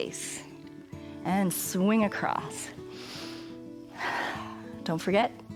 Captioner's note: inhales and exhales